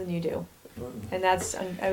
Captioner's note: grunting